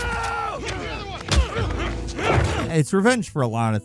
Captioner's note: Tommy grunting; blows slamming